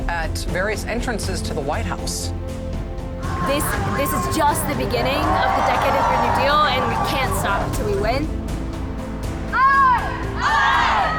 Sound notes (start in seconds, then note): 5.5 crowd cheering